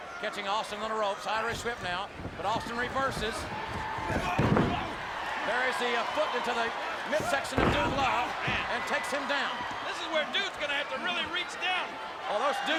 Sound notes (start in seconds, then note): 3.8 audience cheers